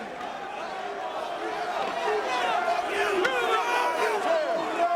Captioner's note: crowd chattering